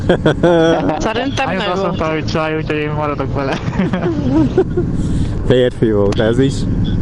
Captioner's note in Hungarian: nevetés